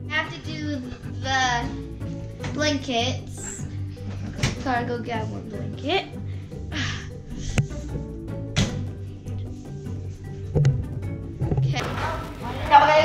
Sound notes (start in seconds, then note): 6.6 sighs; 8.2 door closes